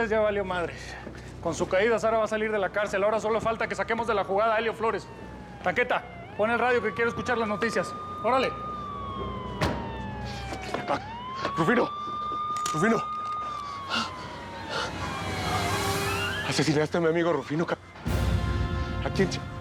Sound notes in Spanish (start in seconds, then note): 9.5 portazo; 11.3 ruido de sirenas